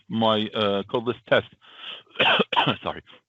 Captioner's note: coughs